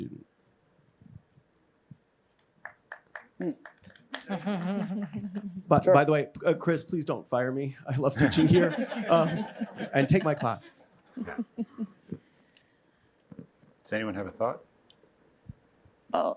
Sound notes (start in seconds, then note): 10.7 laughter